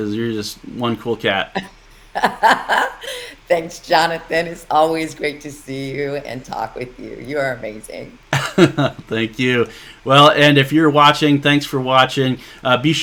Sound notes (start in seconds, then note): 2.1 chuckling; 8.3 laughing